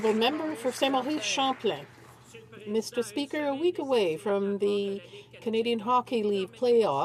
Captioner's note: applause